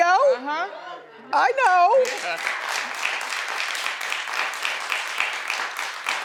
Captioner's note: audience applauds